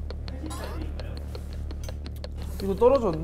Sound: hesitant

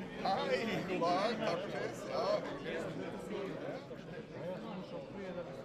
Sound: speaks foreign language

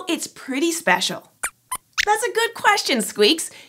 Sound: squeaks squeaks

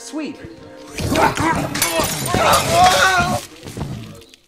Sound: screaming

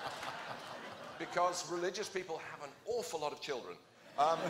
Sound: laughter

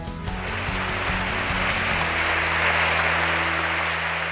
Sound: audience applauding

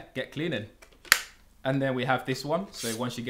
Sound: part clicking

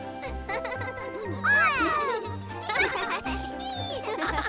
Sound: chuckles; all laughing and cheering

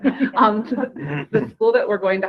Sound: group laughing

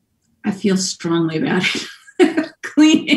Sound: laughs loudly

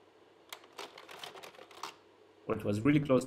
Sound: slide projector clicks

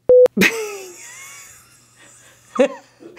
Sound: laughing

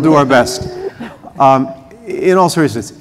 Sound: laughter

